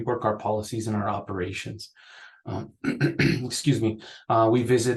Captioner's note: clears throat